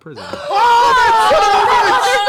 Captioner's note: shouting